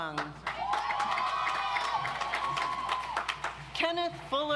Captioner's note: audience applauds